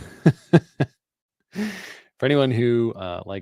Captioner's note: laughter